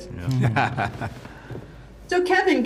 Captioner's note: all laughing